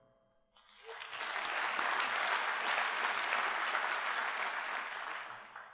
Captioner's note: applause